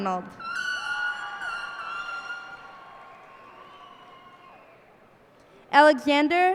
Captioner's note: cheers and applause